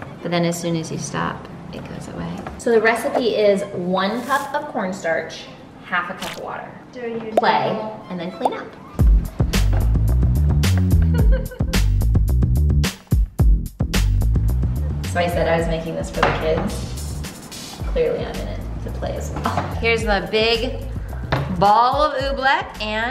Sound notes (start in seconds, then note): 9.0 energetic techno music; 11.0 laughs